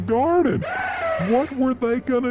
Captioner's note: gasp